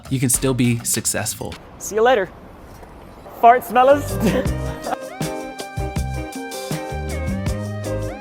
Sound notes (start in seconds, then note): 3.8 funky upbeat music; 3.9 Ryan laughs